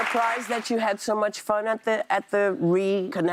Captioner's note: applause